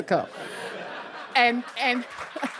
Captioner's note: audience laughing